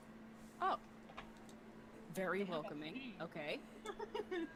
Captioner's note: laughing